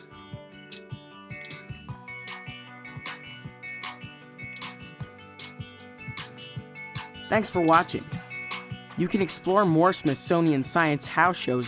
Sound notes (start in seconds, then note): 0.0 guitar music; 7.5 voiceover